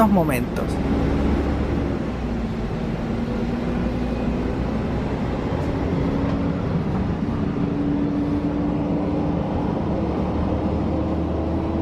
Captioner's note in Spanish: sonido del bus articulado Neobus Mega Plus - Mercedes Benz O500 MA